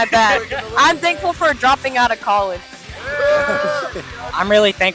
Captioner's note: cheers